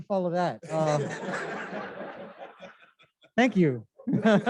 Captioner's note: laughter